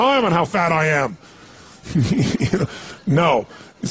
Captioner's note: laughs